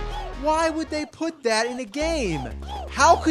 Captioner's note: HOOOs continue in background